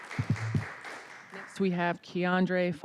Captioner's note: applause